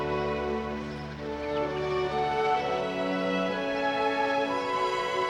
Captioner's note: birds chirping